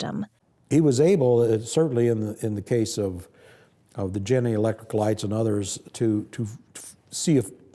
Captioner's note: none